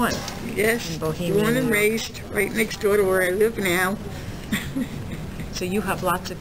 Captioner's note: laughs